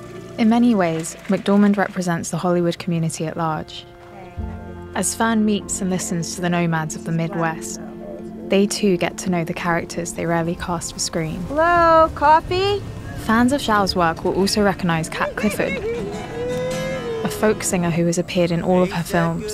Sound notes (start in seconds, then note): 14.6 laughing, guitar playing; 19.3 singing